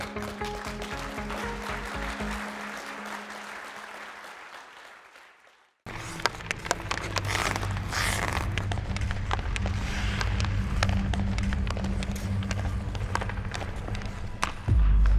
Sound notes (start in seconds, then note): 0.0 audience clapping; 6.1 clattering